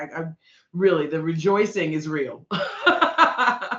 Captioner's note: laughing